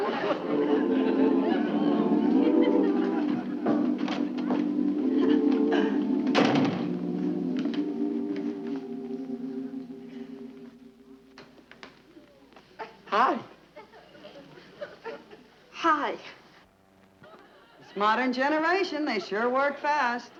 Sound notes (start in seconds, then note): 0.1 quick musical dash; 6.3 door clicking shut